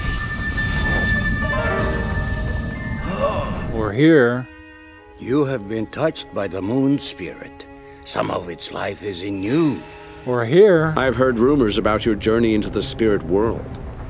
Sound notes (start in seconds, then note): 3.0 Iroh gasps again